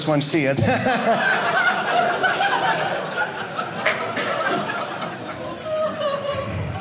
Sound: audience laughing

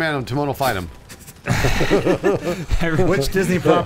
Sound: laughing

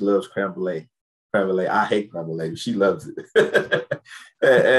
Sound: laughs

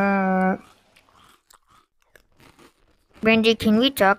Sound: crunchy eating sound continues

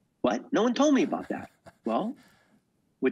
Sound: laughing

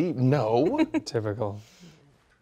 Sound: woman laughs

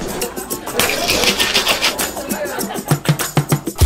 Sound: clinking; ice shaking; laughter

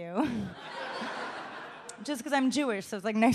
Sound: laughs

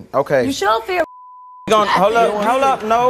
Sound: beep

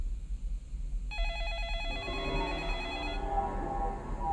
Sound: phone ringing

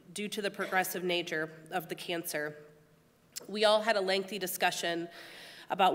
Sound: none

